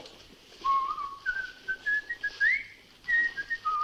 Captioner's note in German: Jock pfeift